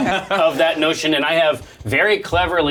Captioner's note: all laugh